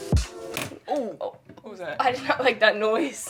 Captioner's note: gentle serene music; shelf crunching